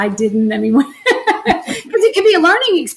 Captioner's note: laughs loudly